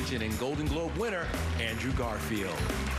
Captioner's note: applause